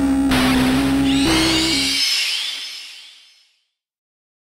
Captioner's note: dramatic music; horror sound